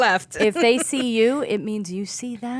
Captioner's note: laughing